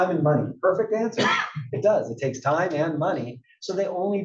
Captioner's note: cough